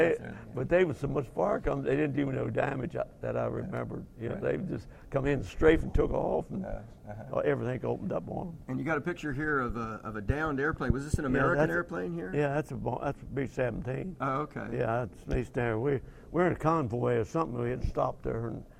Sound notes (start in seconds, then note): none